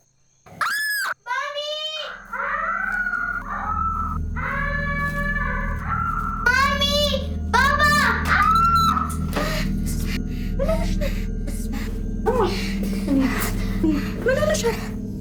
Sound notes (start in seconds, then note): 0.5 screaming and crying